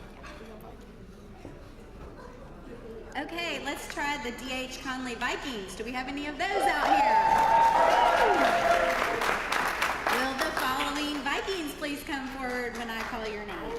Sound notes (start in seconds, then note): 6.7 applause